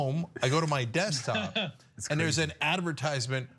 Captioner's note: laugh